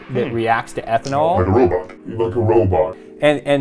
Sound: robotic voice

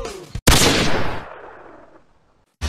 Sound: bang!

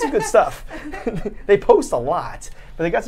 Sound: laughs

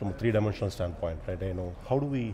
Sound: speaks faintly

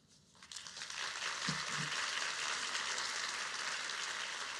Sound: audience applauding

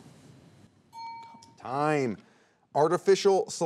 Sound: alarm clock ringing

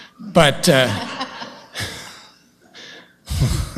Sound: laughter

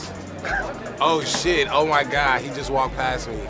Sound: man laughs

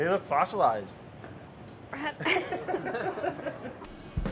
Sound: laughs; upbeat drum beat

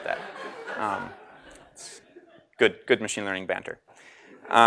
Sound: laugh

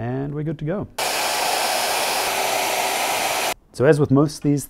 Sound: machinery whirring

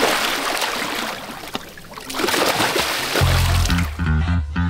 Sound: water splashing

